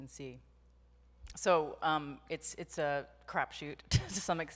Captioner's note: laughs